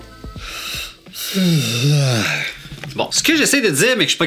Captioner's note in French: bâillement